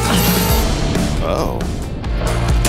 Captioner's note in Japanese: 爆発音